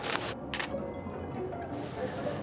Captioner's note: ringing of wind chimes